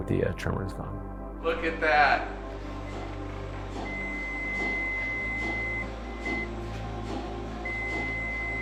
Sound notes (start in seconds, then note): 3.8 machine beeping